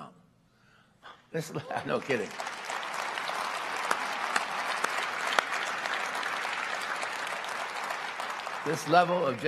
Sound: applause

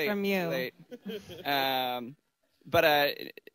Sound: laughter

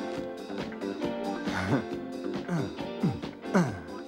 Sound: disco music playing; grunting

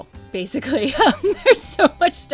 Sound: laughs

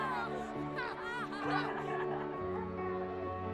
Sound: children playing

